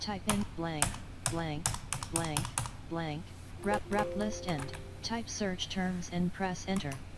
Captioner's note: sound of screenreader